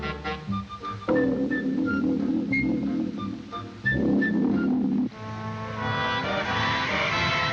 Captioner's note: whimsical music; diving board springing; dramatic music; wind whooshing